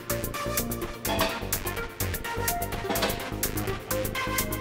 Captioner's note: car lifter clicking